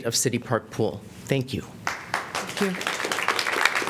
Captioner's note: applause